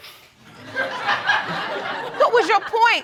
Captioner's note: audience laughing